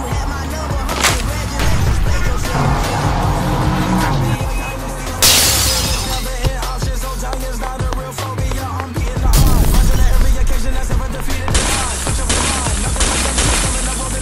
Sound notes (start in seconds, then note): 5.2 smashing glass